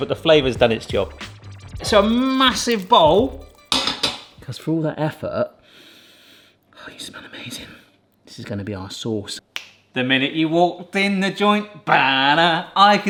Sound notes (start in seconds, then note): 5.7 inhales